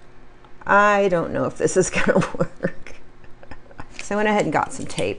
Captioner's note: laughs